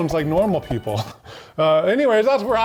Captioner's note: laughs